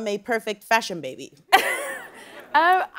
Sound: laughing

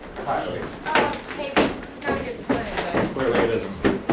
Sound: chattering

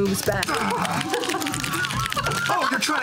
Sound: keyboards clacking; group laughter

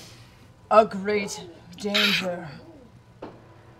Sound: clears throat

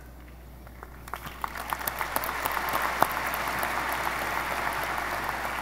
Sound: audience applause

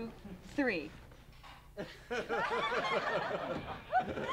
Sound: silence, crew laughs

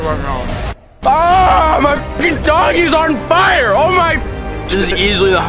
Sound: yells

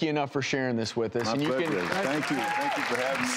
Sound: audience applauding

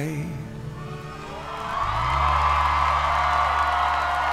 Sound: audience cheering

